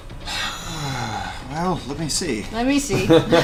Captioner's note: sighs